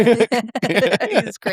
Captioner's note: both laughing